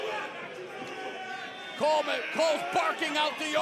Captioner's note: crowd chatter